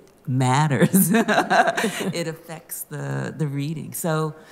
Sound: laughter

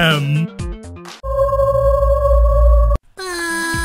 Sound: haunting noises

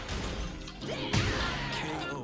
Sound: agonized screams

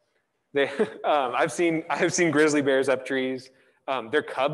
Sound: laughs

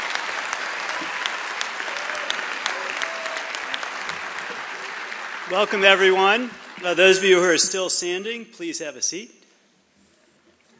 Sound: applause

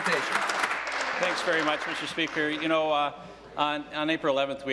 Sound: applause

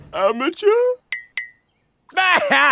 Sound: sobbing

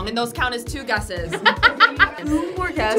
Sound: laughs

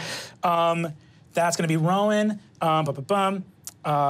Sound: hums

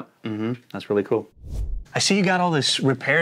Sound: air swooshing

